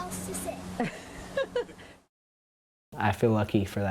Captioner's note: laughs